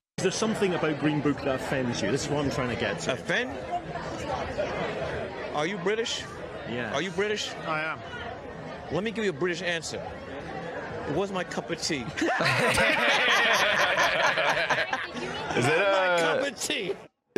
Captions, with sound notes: Is there something about Green Book that offends you? - Offend? Are you British? - I am. - Let me give you a British answer. - It wasn't my cup of tea. (laughs) - (all laughing) Not my cup of tea!